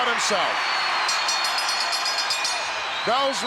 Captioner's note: crowd cheers; bell rings